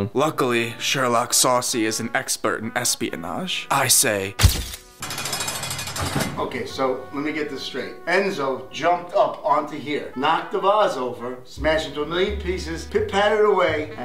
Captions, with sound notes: - Luckily, Sherlock Saucy is an expert in espionage. I say. (shutter clicking) (bars clicking) - Okay, so let me get this straight. Enzo jumped up onto here, knocked the vase over, smashed it into a million pieces, pit patted away,